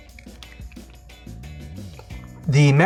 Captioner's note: crunching